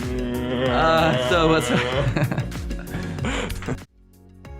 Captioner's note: making zooming sound effects; laughing